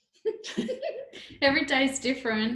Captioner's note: laughing